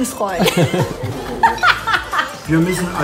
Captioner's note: laughter